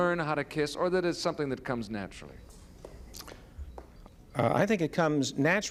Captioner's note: none